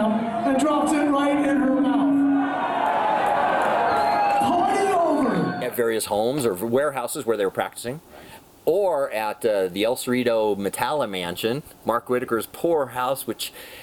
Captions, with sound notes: and drops it right in her mouth. [crowd cheering] Party over. At various homes or warehouses where they were practicing or at the El Cerito Metallica mansion. Mark Whitaker's poor house,